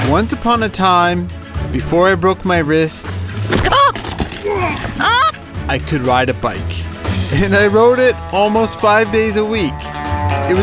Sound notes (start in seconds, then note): 4.9 woman gasps and yells